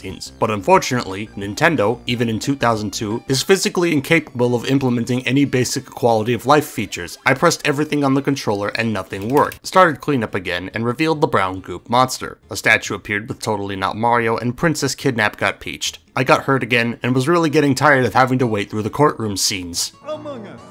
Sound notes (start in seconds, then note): 9.0 ferocious button mashing